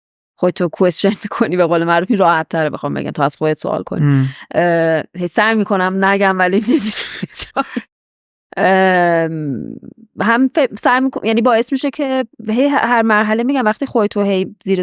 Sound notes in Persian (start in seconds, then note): 7.5 خنده